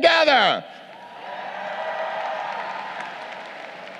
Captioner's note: crowd cheering